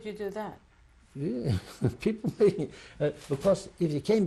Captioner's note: laughs